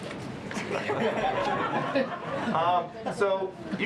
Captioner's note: laughter